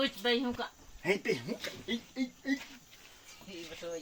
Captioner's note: children speaking Yanomami; speaking Yanomami; child speaking Yanomami